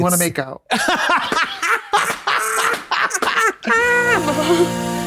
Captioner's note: blonde Women hoot and holler; romantic music